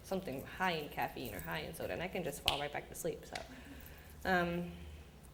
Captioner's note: snaps